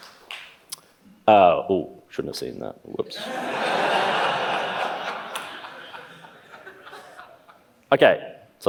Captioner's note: laughs